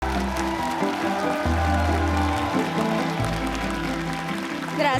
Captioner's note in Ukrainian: оплески